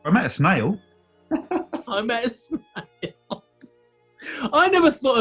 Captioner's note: laughing